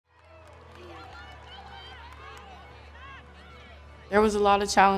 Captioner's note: voices speaking